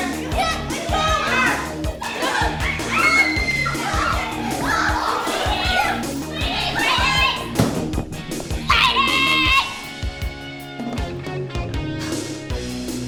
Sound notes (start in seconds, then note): 1.8 fight yelling and panting; 2.0 screams; 3.9 fight yelling and panting